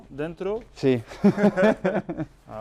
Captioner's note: chuckles